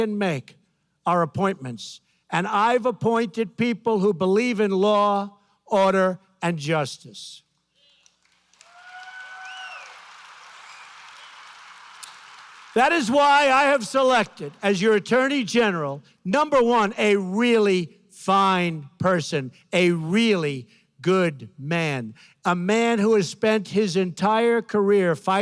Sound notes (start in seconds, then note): 7.8 applause